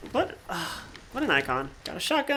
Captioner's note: sighs